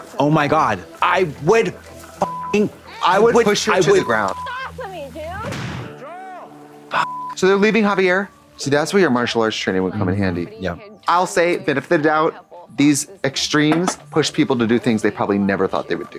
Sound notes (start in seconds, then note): 2.2 beep; 6.9 beep